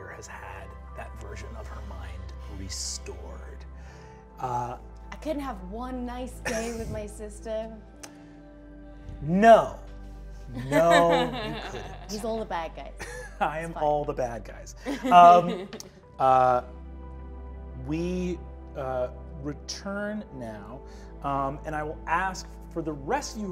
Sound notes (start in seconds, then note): 14.8 laughs